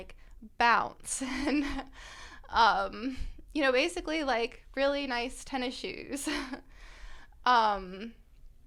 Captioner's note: laughter